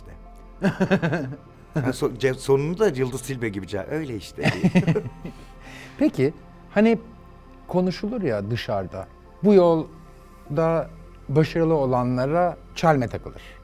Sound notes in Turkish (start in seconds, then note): 0.6 Gülüyor; 4.4 Gülüyorlar